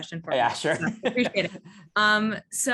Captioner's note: laughs